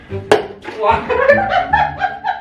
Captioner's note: brush drops; both laughing